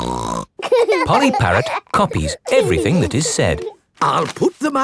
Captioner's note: laughing